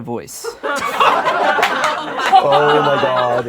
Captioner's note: laughing